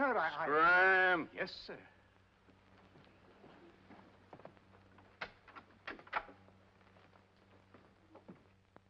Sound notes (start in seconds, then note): 5.1 door opens